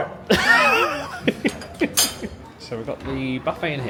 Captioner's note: laughs